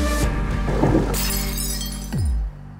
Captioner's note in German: klirr